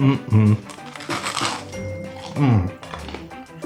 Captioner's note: crunch